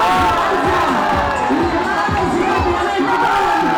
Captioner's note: audience cheering